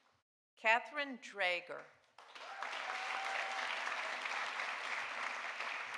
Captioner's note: audience applauding